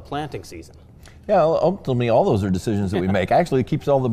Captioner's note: laughing